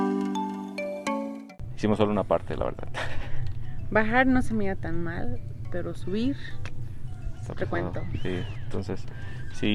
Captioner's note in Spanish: risas